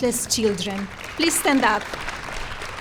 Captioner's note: applause